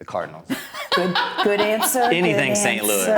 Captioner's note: laughing